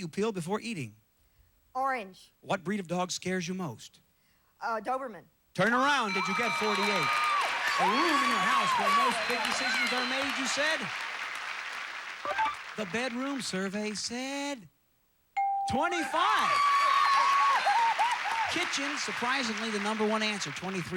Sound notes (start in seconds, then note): 6.5 audience applauding; 15.9 audience applauding